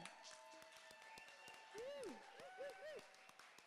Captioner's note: cheering